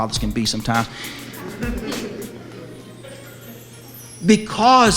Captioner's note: audience laughs